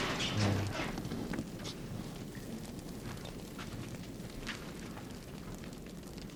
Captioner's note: plane continues collapsing